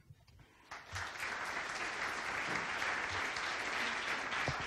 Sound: audience applause

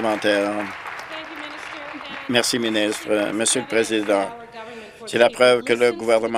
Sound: applause

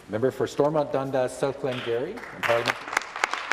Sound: applause

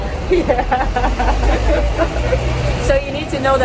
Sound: laughters

